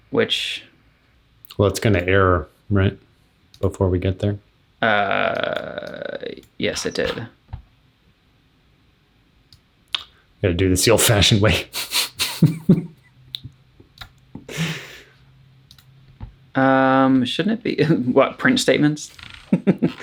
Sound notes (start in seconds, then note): 11.9 laughing